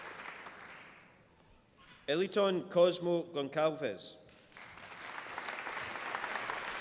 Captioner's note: applause